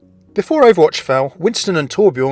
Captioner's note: voiceover